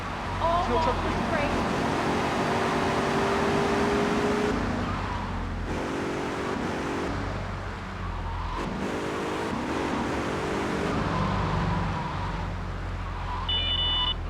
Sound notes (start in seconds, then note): 1.7 beeping